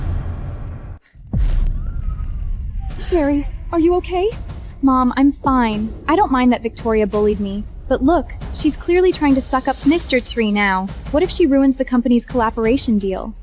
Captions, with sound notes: [SCREAMS] Terry, are you OK? Mom, I'm fine. I don't mind that Victoria bullied me. But look, she's clearly trying to suck up to Mr. Tree now. What if she ruins the company's collaboration deal?